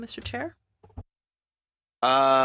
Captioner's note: speaking French